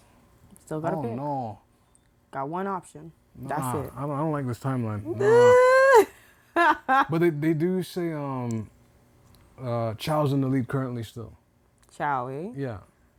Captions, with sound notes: - Still gotta pick. - I don't know. - Got one option, that's it. - I don't like this timeline. (laughing) But they do say, Chow is in the lead currently still. - Chow, eh? - Yeah.